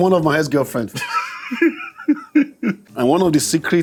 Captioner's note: laughs